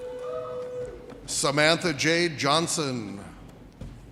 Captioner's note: audience cheers